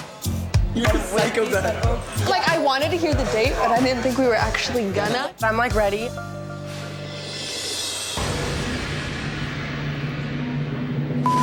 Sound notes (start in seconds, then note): 1.0 laughs; 8.0 dramatic music